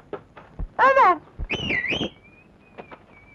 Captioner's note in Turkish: Islık sesi